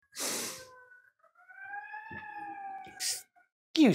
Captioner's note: siren passes